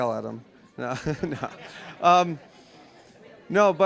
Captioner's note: all laughing